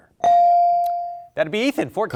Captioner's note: bell dings